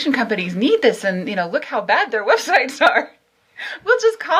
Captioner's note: she laughs